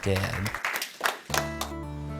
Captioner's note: applause